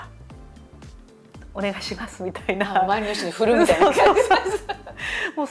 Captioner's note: laughter